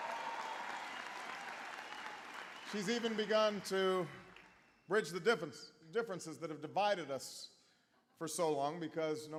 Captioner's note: applause